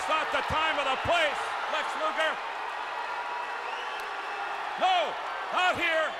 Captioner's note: crowd cheering